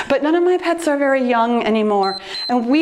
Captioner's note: timer beeps